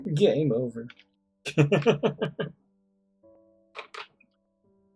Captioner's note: laughs